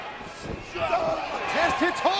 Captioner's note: Test groans